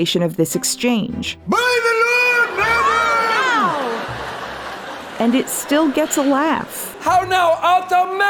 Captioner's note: Feste shouting gibberish and audience laughter